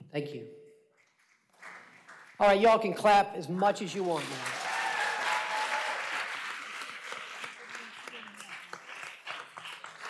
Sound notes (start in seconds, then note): 3.4 applause